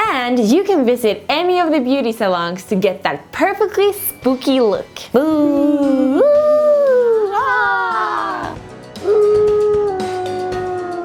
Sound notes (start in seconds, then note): 5.5 making spooky sounds